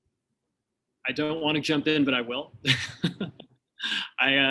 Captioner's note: chuckles